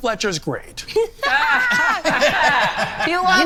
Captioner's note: everyone laughing